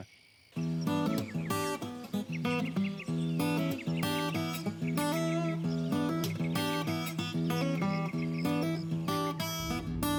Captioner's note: birds chirping